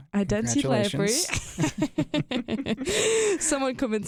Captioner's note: both chuckle